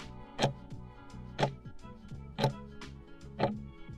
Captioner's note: timer ticking